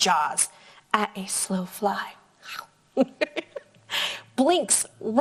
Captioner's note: laughs